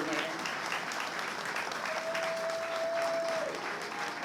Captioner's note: applause